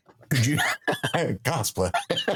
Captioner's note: laughing